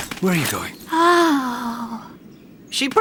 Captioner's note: moans